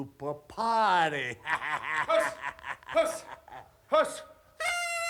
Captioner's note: laugh